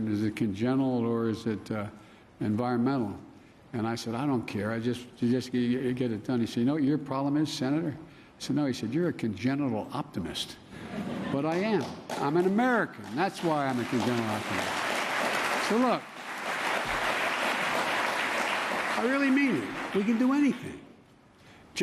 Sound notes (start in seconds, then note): 10.8 laughter; 14.6 applause